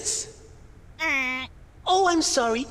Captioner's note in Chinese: 蜂鸣器报错的声音